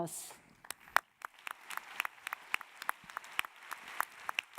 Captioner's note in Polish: oklaski